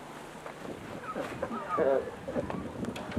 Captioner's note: laughter